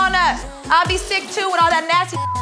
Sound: beep

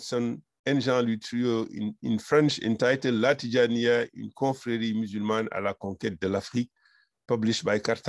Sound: french

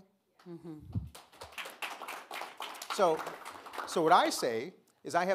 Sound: audience clapping

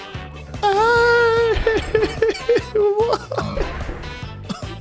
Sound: fake crying

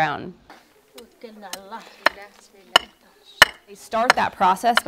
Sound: pounding

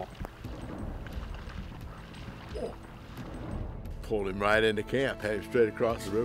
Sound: moose grunts

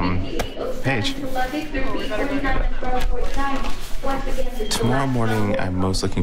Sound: flight attendant speaking over intercom

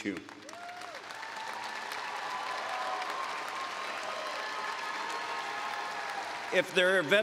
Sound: applause

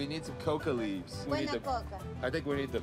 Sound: speaking Spanish

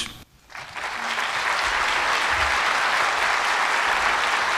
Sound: audience applauds

